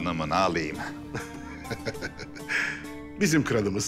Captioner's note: laughter